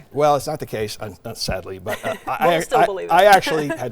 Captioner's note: laughing